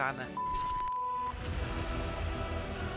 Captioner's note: beep sound!